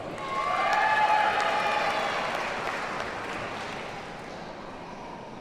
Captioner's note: audience cheers and applauds